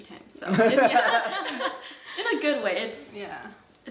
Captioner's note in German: Geschwister lachen